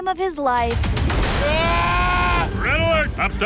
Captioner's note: screaming